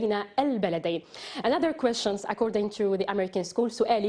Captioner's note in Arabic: تتحدث الإنجليزية